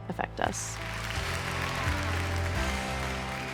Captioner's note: applause